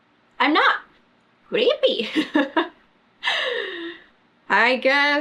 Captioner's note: laughs